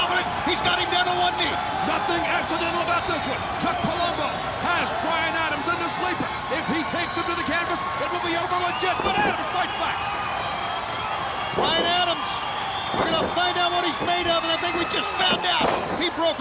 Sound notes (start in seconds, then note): 10.3 crowd cheering